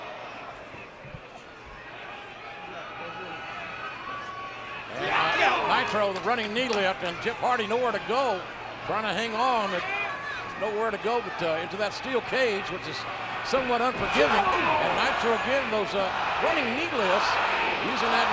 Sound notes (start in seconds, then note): 3.1 audience yelling